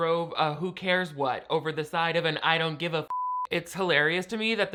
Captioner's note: beep